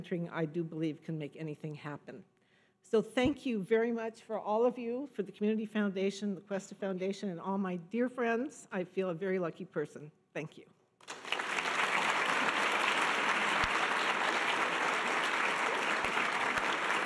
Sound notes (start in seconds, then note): 11.0 audience applause